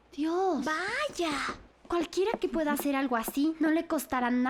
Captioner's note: knocking